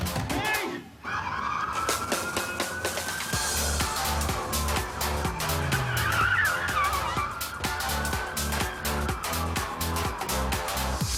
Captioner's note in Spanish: Sirenas